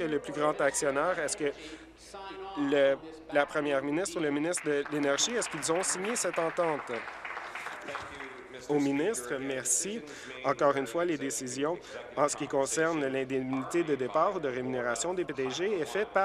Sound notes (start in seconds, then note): 7.1 applause